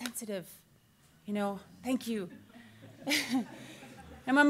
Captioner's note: laughs